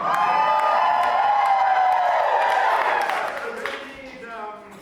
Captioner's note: cheers